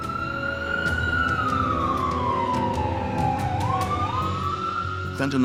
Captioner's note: siren blaring